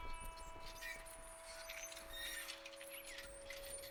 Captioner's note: solemn music; trike squeaking